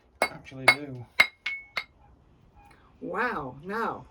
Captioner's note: continued sound of chisel on rock